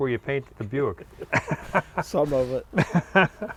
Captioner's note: laughs